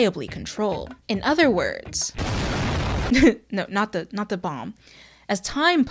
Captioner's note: explosion